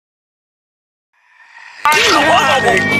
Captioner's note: reverse Sigh